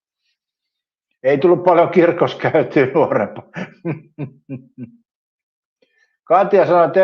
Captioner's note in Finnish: naurua